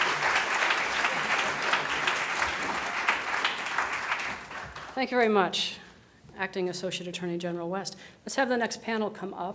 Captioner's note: applause